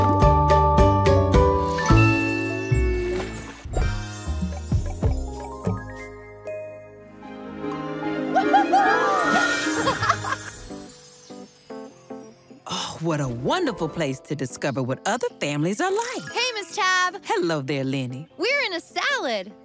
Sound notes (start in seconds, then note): 8.2 whooping; 8.4 giggling